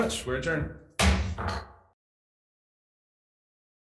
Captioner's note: gavel bangs